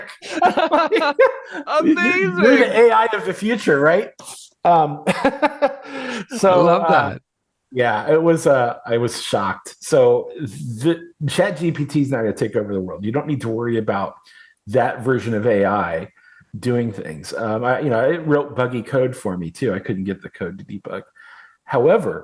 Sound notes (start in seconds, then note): 5.9 laughs